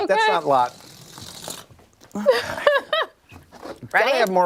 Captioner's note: laughter